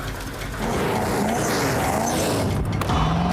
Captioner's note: engine revving